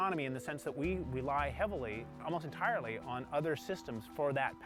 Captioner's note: none